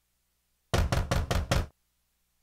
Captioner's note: Knocks on door